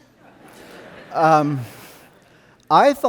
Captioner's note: audience laughing